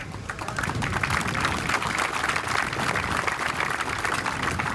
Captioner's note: applause